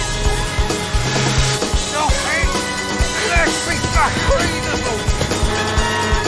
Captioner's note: shouting; horn honking